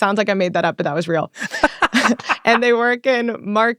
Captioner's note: man laughs